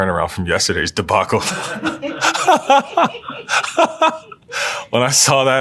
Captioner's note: laugh